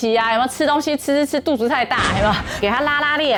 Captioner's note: laughs